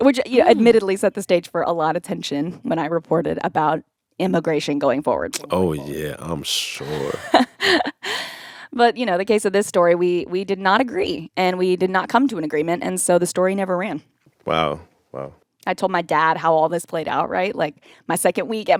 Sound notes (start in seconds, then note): 6.8 laughter